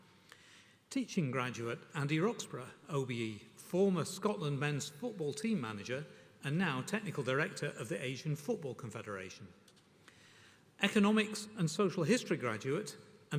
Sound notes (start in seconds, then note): none